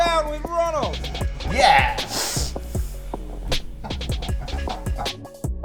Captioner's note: laughs